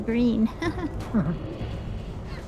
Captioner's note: laughs